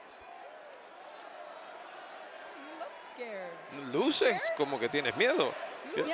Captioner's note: applause